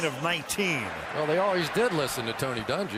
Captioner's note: pa announcement